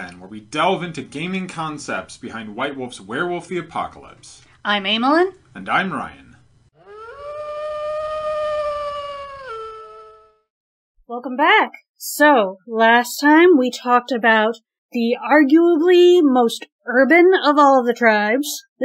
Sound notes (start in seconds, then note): 6.7 wolf howl